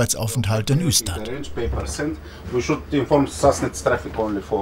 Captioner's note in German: spricht schwedisch